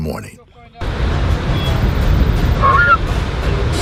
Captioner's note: waves crashing; lively music